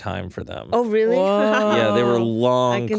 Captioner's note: laughs